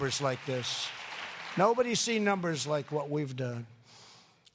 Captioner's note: applause